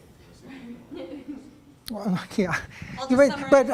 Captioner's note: laughter